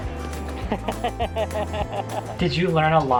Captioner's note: laughing